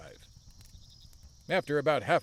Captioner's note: horses gallop